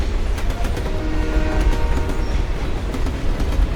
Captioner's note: train horn blast